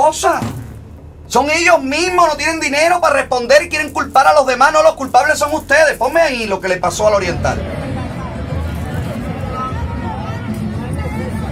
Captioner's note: chatering in spanish